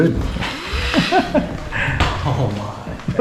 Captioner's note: laughs